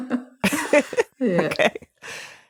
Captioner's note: both laughing